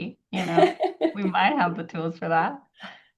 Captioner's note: laughs